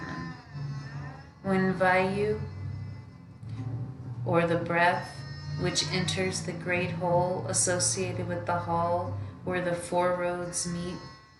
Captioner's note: breath